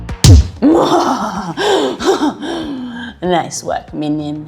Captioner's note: evil laughter